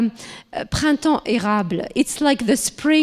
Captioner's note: speaking foreign language